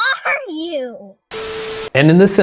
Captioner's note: computer glitches